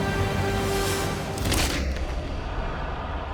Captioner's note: staff cracking